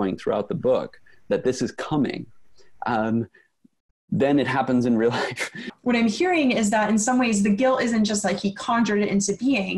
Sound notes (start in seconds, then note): 5.2 ruefal chuckle